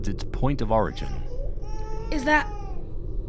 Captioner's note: baby crying in the distance